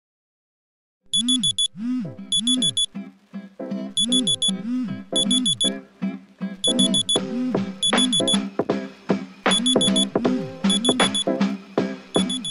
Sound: alarm ringing

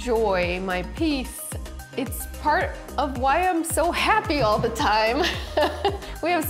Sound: laughing

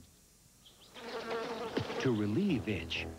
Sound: mosquito buzzing

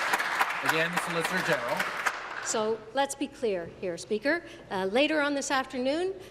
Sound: applause

